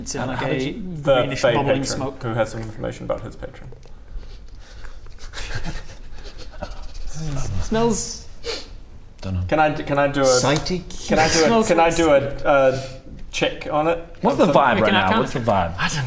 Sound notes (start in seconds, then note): 6.2 sniffing